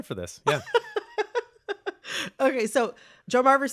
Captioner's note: laughter